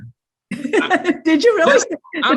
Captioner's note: laughing